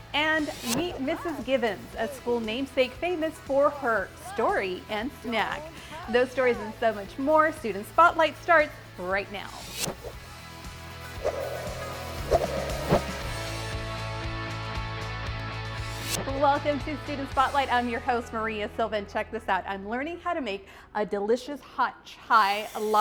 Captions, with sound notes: And meet Mrs. Givens, a school namesake famous for her "Story and Snack." Those stories and so much more. Student Spotlight starts right now. [swiping sound] Welcome to Student Spotlight. I'm your host, Maria Silva. Check this out. I'm learning how to make a delicious hot chai